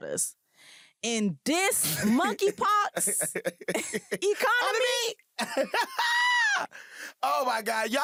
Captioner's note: laughter